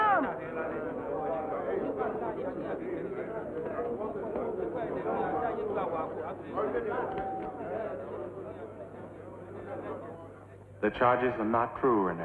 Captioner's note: indistinct crowd chatter